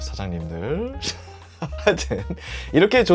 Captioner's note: laughing out loud